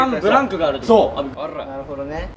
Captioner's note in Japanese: 巻き舌